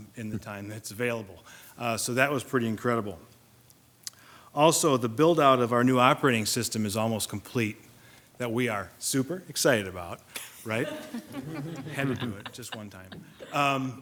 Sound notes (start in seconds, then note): 10.6 group laughs